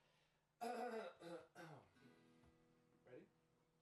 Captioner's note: throat clearing